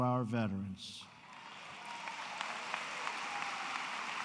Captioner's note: applause